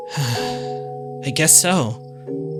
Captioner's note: sigh